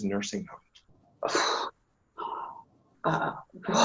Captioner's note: woman sighs